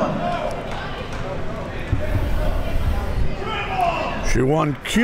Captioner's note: crowd talking